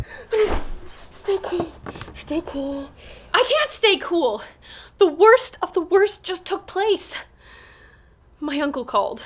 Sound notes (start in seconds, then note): 7.4 inhale